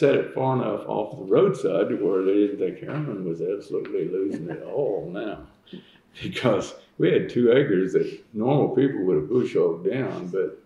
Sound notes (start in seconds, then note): 4.2 laughter